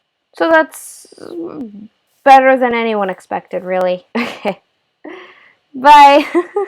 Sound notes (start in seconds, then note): 5.7 laugh